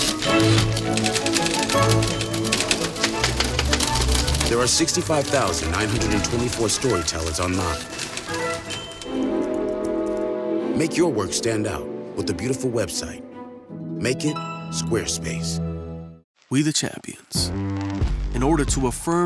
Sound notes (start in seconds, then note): 0.3 typewriter bell rings; 1.7 frantic typing to the melody; 10.0 sounds of a single computer keyboard